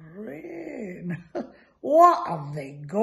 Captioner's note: laughs